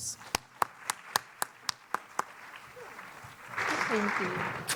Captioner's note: audience applauding